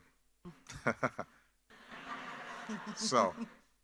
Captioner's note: laughs; audience laughing